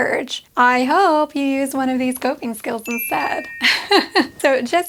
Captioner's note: laughs